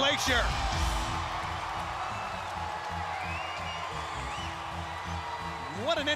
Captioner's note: crowd cheering